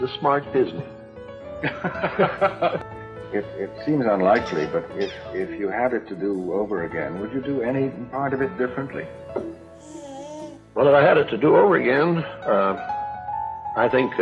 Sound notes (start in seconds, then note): 1.6 laughter; 9.7 baby coos